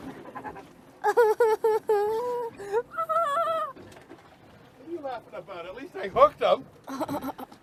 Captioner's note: laughter